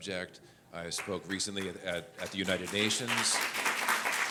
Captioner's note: audience applauds